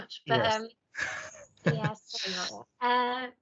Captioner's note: laughs